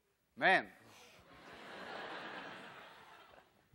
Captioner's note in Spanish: Clase ríe